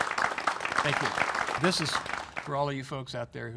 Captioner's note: applause